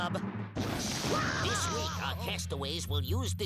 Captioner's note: Daffy screaming